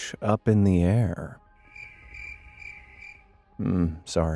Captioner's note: insects chirping